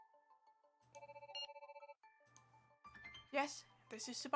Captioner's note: phone rings